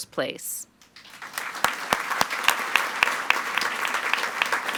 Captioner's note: all applauding